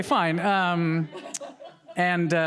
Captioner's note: audience laughing